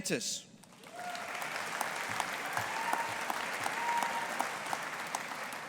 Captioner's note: audience applauding